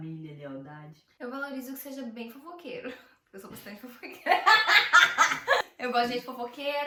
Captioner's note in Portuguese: risos